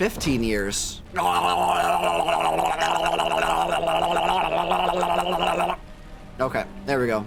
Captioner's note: gargling